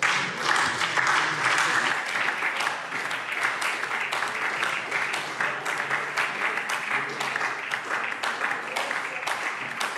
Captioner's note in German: Beifall SPD